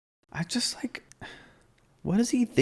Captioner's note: sighs